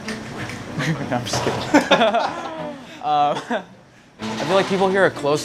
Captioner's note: laughing